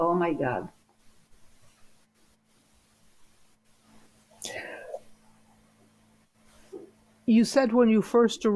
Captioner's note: pauses 6 seconds